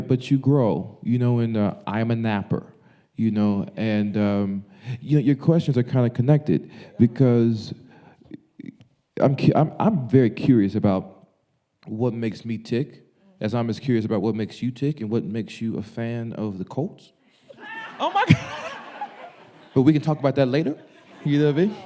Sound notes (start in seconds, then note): 17.5 audience laughing